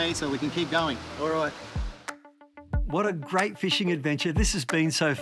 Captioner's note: water splashing